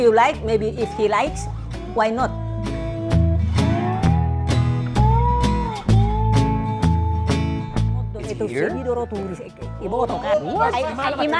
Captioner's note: laughing